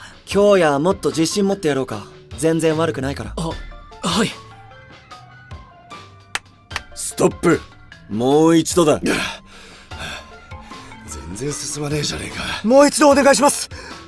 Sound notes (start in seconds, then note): 9.0 tired heavy breathing